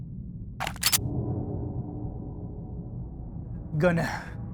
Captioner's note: gun cocking